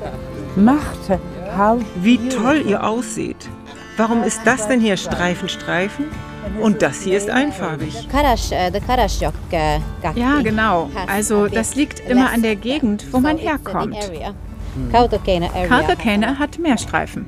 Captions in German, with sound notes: (englisch:) Wie toll ihr ausseht. Warum ist das denn hier Streifen-Streifen und das hier ist einfarbig? (in ihrer Sprache:) Ja, genau. Also das liegt immer an der Gegend, wo man herkommt. Dieser Ort hat mehr Streifen.